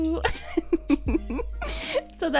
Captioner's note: laughs